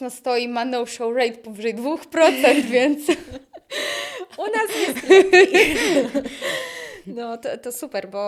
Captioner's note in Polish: śmiech